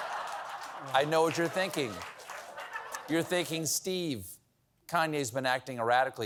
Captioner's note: laughter